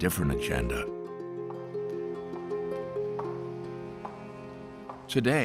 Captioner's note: footsteps tapping